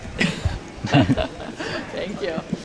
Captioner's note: laughter